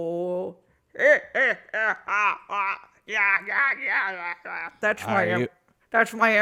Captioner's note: Leia tries to impersonate the Emperor's laugh and fails